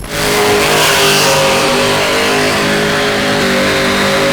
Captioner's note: car engine roaring